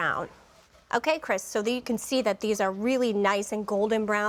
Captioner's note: none